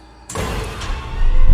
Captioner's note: door slams shut; tense music